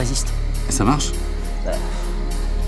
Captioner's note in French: soupir